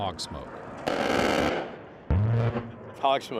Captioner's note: roaring gunfire